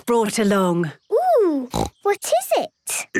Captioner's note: snorting